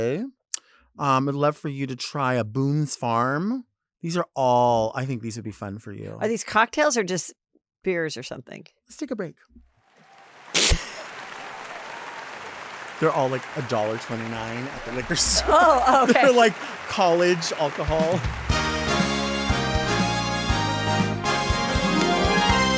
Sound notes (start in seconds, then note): 10.6 Heather laughs; 11.9 audience applauds; 18.8 triumphant music